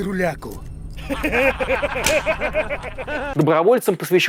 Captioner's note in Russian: Смеются